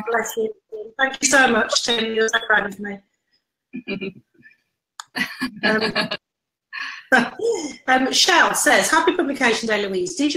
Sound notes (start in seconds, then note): 5.0 laughs